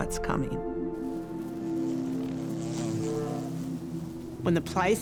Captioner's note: insects buzzing